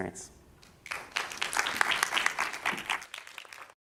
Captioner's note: applause